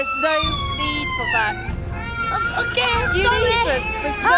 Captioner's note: baby cries